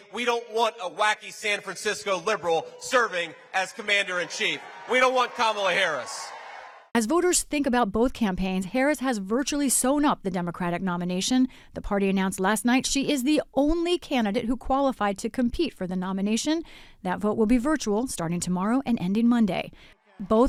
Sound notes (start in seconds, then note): 6.9 applause; 6.9 cheering